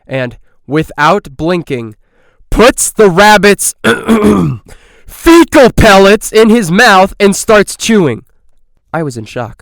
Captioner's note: clear throat